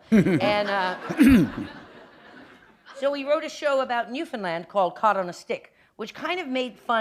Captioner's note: laughter